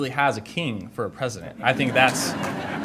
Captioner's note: audience laughter